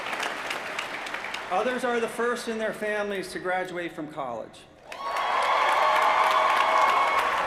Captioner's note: applause